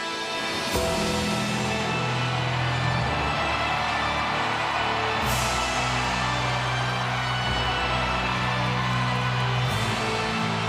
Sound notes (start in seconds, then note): 3.0 crowd cheering; 7.1 creepy music continues